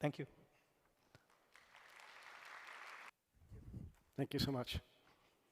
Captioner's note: applause